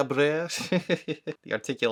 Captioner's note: laughing